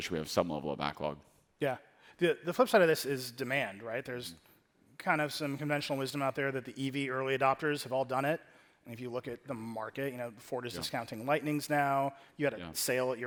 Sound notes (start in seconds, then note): none